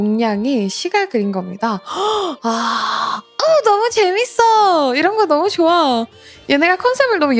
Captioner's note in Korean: 헉 소리